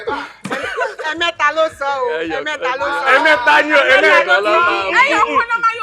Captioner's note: laughs